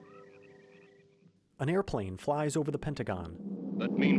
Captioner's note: an airplane flies</i> <i>over the Pentagon